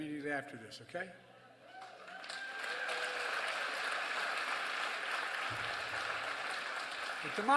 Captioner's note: applause